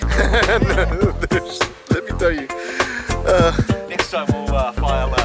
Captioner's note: laughing